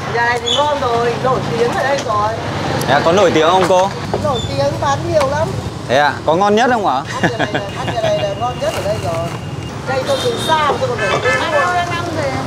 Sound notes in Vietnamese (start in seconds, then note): 7.0 cười